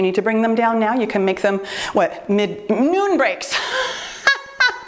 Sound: laughs

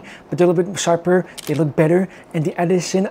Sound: camera clicking

